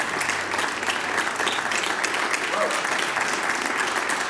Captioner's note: applause